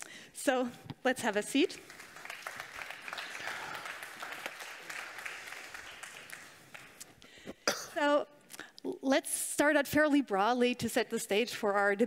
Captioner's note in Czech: Potlesk